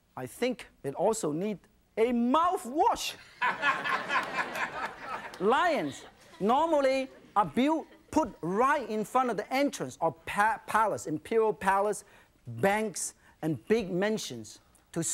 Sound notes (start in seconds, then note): 3.2 audience laughing